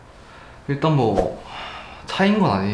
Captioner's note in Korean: 깊은 한숨